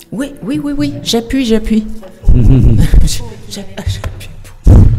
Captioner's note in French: rires